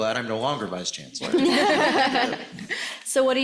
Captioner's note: laughs